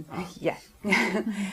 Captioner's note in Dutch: lach